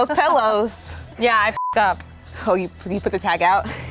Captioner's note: beep